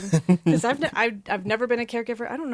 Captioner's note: laughs